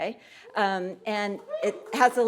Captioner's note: audience cheering